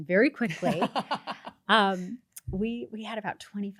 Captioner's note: laughs